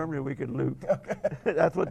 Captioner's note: laughing